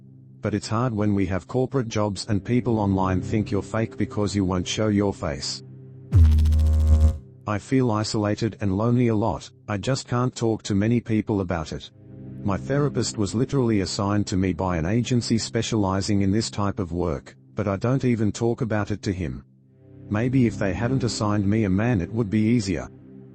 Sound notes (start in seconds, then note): 6.1 electrical noise